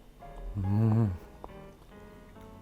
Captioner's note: mm!